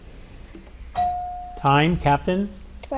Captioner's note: bell ringing